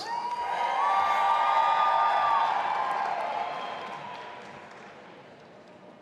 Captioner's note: audience applauding and cheering